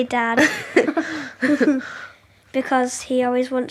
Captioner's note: children chuckle